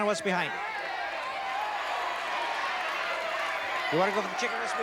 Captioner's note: chatter